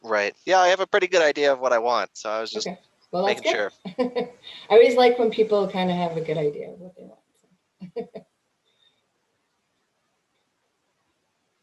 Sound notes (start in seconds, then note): 8.6 chuckles